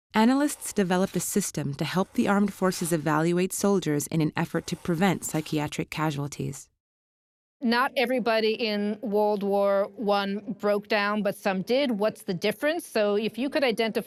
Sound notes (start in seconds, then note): none